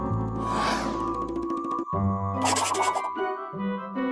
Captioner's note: none